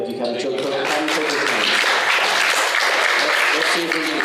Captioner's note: applause